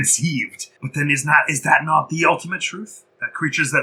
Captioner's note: philosopher voice